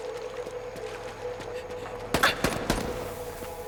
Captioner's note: panting; gunshots